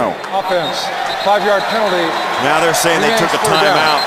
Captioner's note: whistle